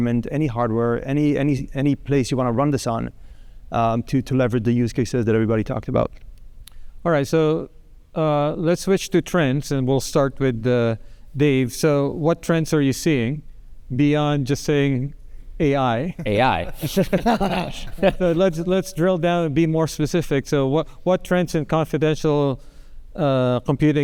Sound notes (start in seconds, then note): 16.2 group laughing